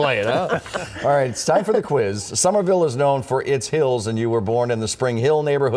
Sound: laughter

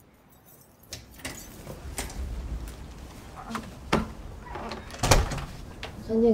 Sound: door opening and closing

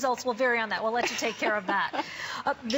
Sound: laughter

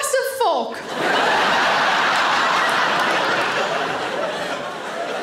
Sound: audience laughing

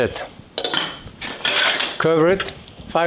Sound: lid clicks

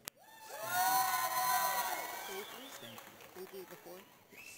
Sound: audience cheers

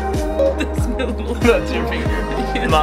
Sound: laughing

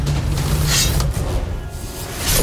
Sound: sword swishing

